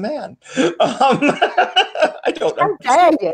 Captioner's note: laughing